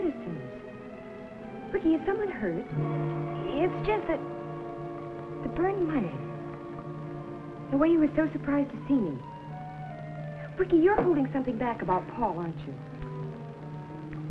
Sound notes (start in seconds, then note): none